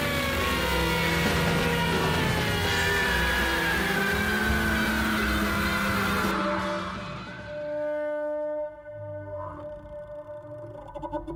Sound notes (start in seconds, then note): 0.0 Motosierra zumbando; 3.1 Zumbido se intensifica; 7.7 Zumbido se atenúa